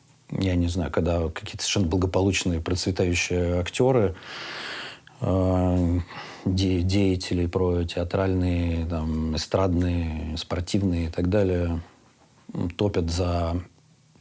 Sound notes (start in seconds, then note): none